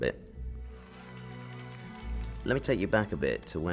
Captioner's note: applause